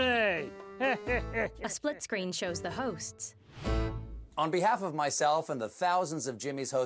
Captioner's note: \chuckles\